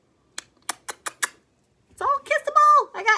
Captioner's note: kiss sound